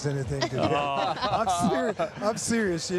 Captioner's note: everyone laughing